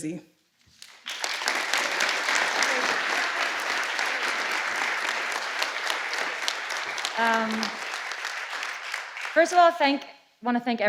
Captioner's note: applause